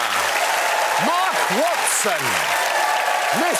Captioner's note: applause